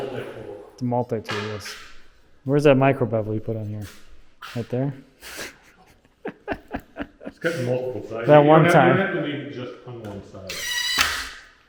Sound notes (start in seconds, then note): 5.4 laughs; 9.9 laughing